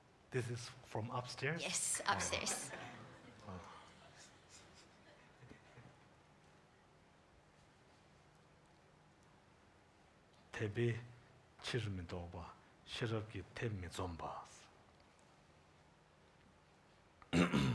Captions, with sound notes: This is from upstairs? - Yes upstairs. (speaking in Tibtetan)